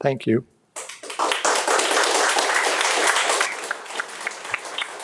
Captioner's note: audience applauding